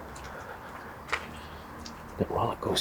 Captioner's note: sigh